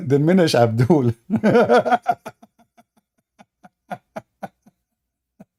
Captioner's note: Ketawa